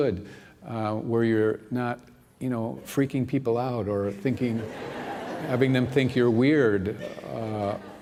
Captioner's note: laughter